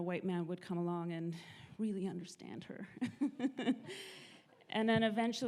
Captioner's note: audience laughs